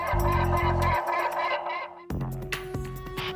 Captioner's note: chuckles; Robop squawking; dramatic music